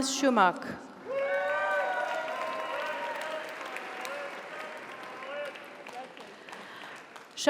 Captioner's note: audience cheers; audience applauds